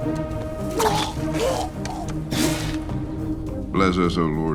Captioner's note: men groaning; men vomiting